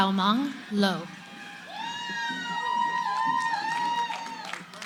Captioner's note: cheering